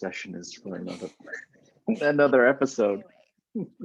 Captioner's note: both laughing